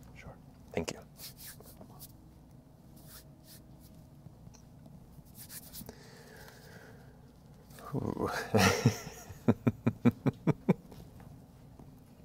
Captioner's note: sighs, laughs